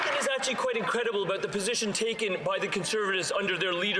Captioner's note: some Applause